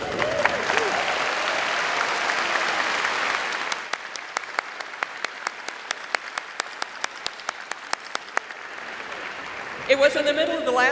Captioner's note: applause